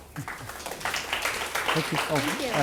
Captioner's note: audience clapping